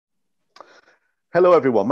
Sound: no sound

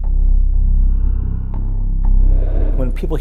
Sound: large animal inhales, exhales

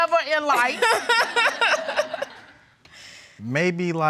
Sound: laughing

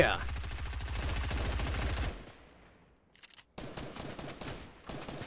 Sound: gunshots; returned gunfire

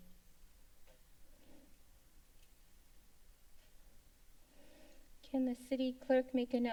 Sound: silence

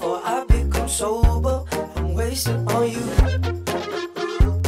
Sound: hoo hoo

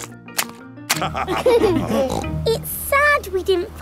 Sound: laughter

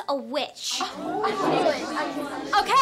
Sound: <i>all chattering

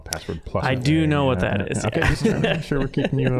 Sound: laughing

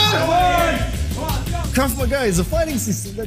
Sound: yelling

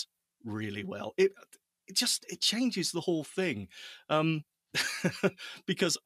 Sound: chuckling

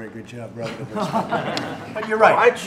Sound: laughter

